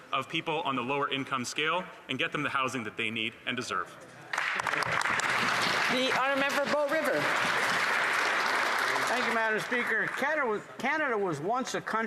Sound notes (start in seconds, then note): 8.3 applause